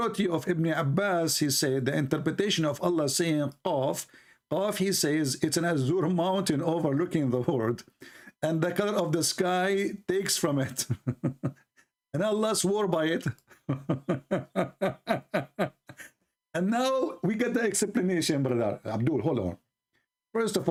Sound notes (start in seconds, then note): 13.3 Ketawa